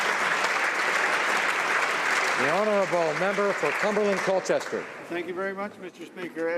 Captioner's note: applause